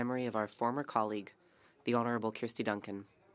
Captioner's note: speaking French